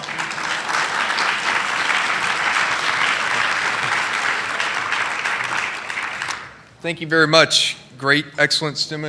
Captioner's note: applause